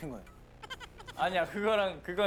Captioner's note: laughing